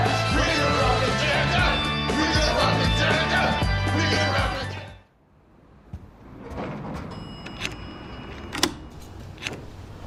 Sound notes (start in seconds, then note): none